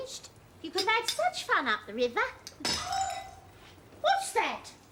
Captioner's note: crashing sound from the library